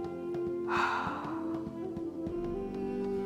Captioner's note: exhaling